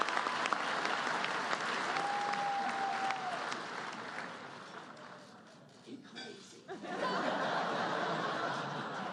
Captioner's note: applause